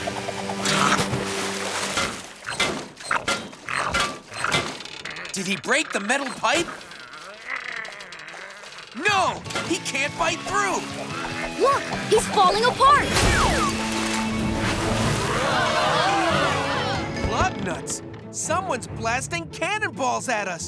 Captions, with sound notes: Did he break the metal pipe? [straining] No, he can't bite through! Look, he's falling apart! [screaming] Lug nuts, someone's blasting cannon balls at us!